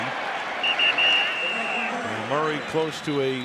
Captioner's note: whistle blows